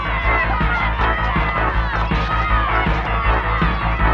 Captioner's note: shouting and cheering